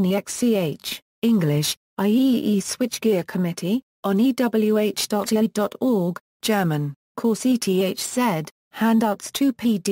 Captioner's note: German